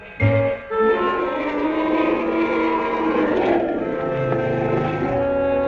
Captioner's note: both roaring